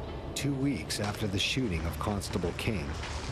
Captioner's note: voiceover